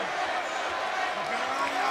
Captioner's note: crowd chanting